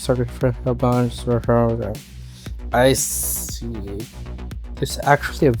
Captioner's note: mumbles - I'm just reading